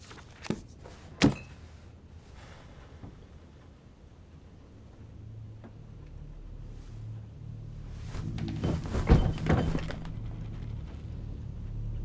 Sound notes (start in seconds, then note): 8.1 body hits the floor